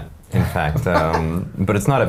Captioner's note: men laughing